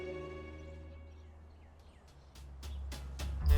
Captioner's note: birds chirping; investigative jazz music plays